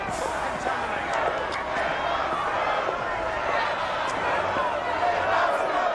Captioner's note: crowd chanting